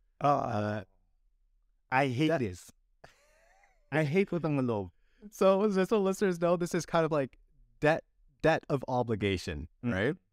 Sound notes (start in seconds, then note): 3.0 laughter